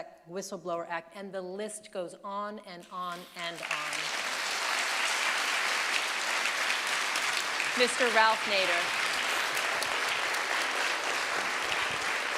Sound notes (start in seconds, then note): 3.5 audience applauding